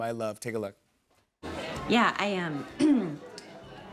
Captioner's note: clears throat